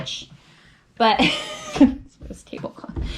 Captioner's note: chuckles